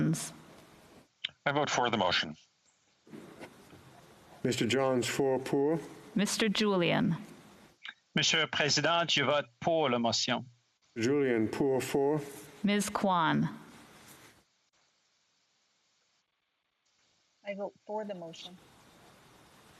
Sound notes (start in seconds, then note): 11.7 speaking French